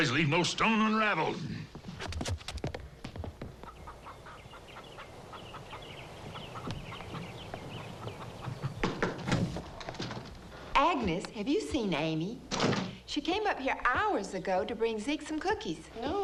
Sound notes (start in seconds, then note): 3.5 chickens clucking; 8.6 door knocks